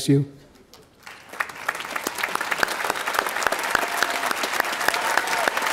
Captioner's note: audience applauding